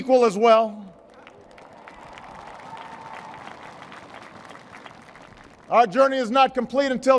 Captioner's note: applause